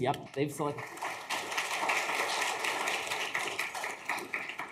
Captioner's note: audience clapping